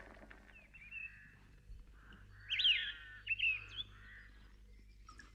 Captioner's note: birds chirp